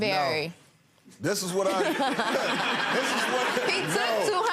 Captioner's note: laughing